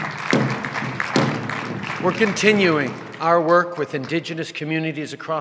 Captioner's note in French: Sons de tambours et applaudissements